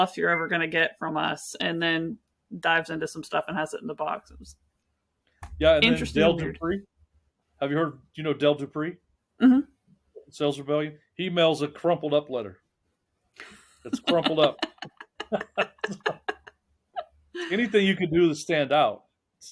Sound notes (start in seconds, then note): 14.0 laughing